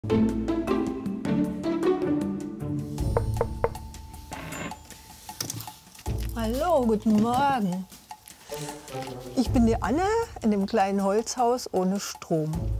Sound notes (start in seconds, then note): 3.1 knock; 4.9 door creaks, curious music